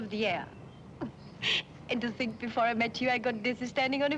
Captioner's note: chuckles